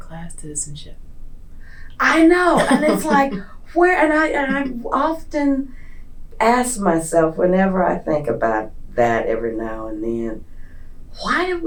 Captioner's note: laughter